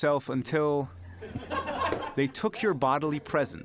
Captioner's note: laughter